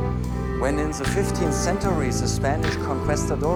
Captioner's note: speaking English